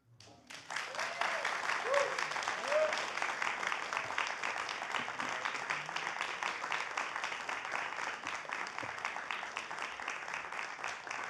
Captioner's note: applause